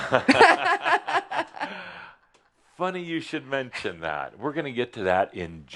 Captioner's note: they both laugh